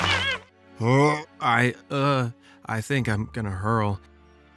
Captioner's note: gag